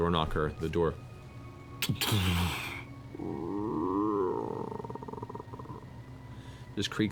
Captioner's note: thump-crash, creak